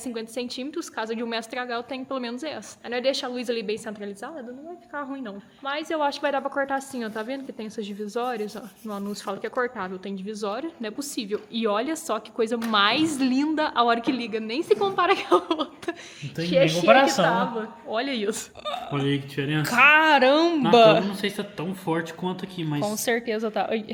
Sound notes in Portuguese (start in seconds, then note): 14.8 risadas